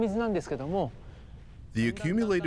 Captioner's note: speaking Japanese